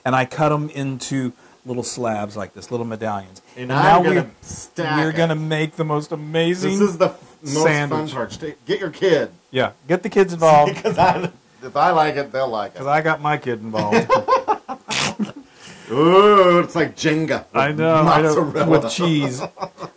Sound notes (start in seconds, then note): 13.8 laugh